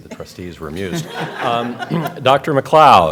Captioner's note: laughter